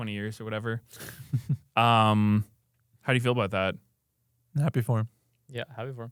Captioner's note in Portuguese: risos